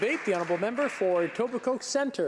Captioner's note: applause